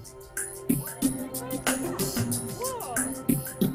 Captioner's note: students talking